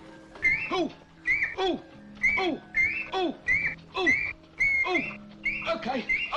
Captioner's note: bird chirps